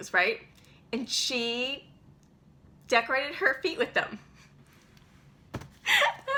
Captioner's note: laughs